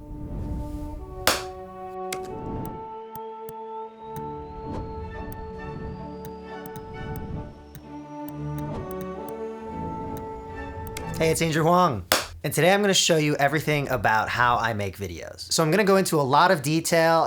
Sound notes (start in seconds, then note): 12.1 high five sound